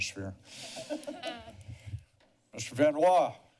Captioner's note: laughter